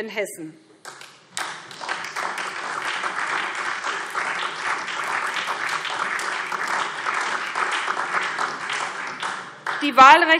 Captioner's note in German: Beifall SPD und DIE LINKE